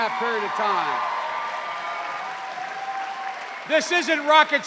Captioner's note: cheers and applause